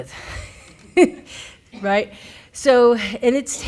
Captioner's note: laughs